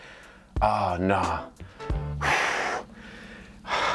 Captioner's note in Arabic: يتأفف